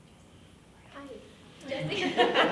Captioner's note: whispering; group laughing